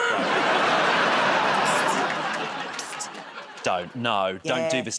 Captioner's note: laughter and applause